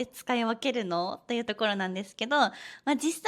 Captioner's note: casual speech